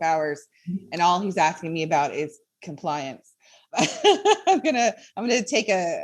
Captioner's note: laughs